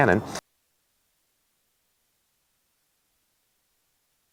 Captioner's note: silence